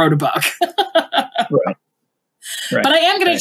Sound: laughs

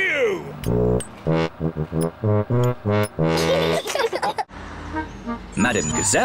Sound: giggles

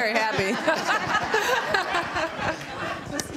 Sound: laughter

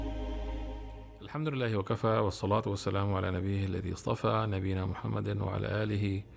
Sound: man speaking in foreign language

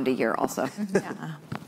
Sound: laughs

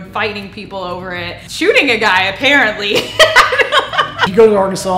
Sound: laughs

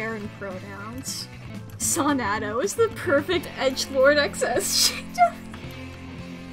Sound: through laughter

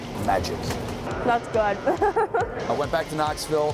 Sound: laughs

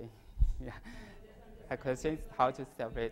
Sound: laugh

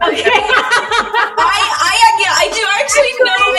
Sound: all laughing

